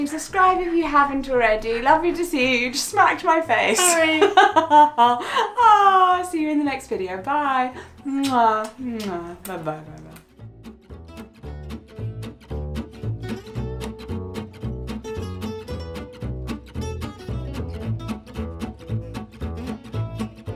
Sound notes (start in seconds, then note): 3.6 laughs; 10.7 bright music